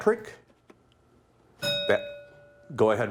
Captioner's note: bell ringing